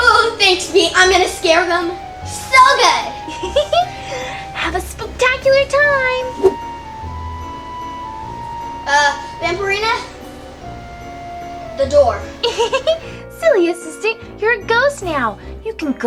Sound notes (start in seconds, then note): 12.4 Vampirina giggles